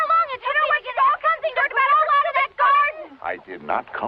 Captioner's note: overlapping chattering